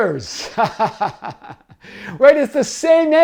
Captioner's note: laughs